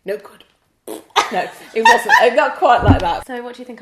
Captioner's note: laughs